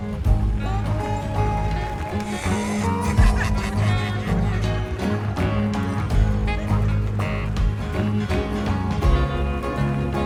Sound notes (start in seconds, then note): 0.2 country rock music; 2.8 laughing